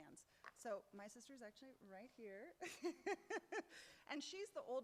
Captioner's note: laughs